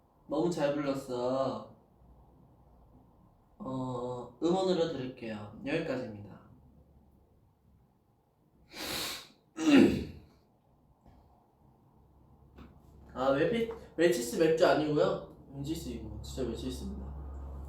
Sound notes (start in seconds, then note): 8.6 sniff; 9.6 clears throat